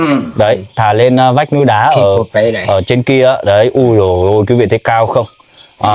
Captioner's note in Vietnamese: hắng giọng